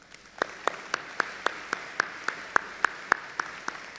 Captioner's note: audience applauding